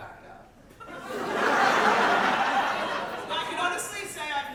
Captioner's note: audience laughter